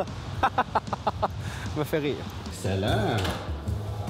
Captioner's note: laughing